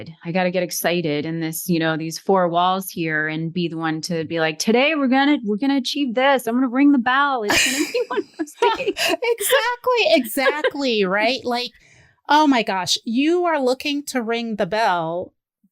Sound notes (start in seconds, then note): 7.4 laughter